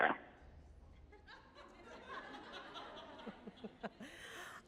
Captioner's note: audience laughing